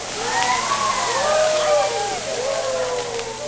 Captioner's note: hooting and Hollering for the sizzling flames